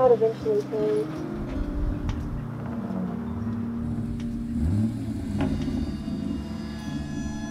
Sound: A car engine burbles, revving

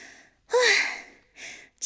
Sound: sighs

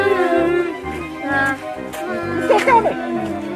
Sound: mummies Moaning

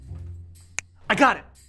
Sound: snaps

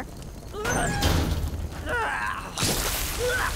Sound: groaning

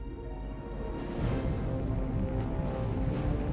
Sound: engine rumbling

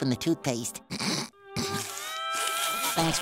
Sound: holding back laughing

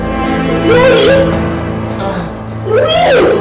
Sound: groaning

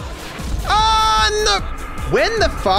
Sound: screaming

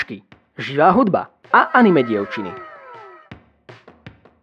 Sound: anime ‘wow’ sound effect; intro theme

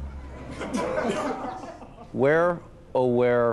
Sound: laughter

